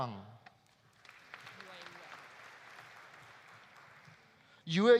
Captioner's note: audience applauding